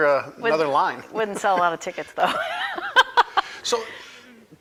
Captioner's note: laughing